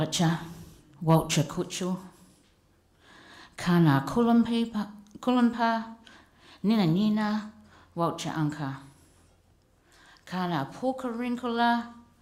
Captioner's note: speaking pitanjarra language